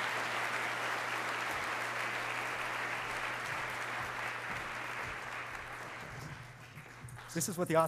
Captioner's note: applause